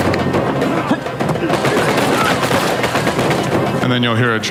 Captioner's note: gunfire